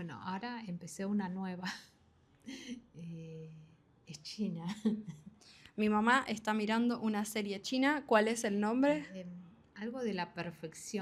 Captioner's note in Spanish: risas